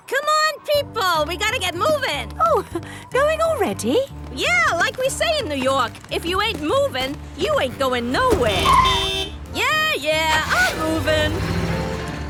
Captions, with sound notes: - Come on people! We got to get movin'. - Oh! Going already? - Yeah, like we say in New York, if you ain't movin', you ain't goin' nowhere! (honking) Yeah, yeah! I'm movin'!